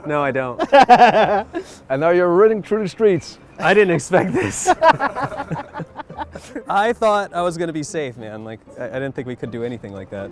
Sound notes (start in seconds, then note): 0.6 laughs; 4.3 laughter